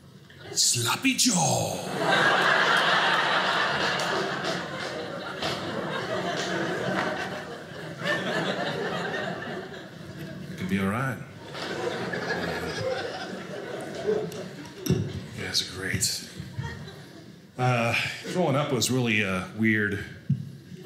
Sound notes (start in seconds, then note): 1.4 audience laughing